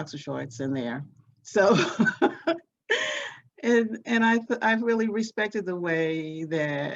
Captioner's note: laughs